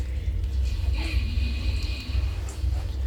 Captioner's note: none